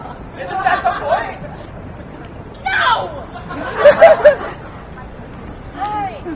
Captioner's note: laughter